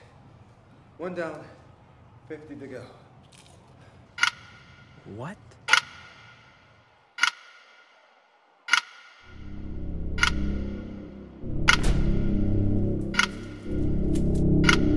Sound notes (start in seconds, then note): 3.8 chip crunches; 5.2 clock ticks